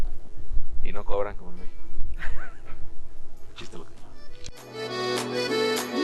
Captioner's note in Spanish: risas